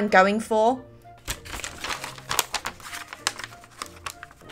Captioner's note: loudly cuts paper